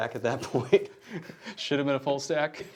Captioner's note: laughing